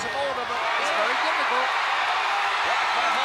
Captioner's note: crowd cheering